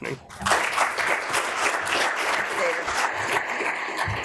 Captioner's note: audience applauds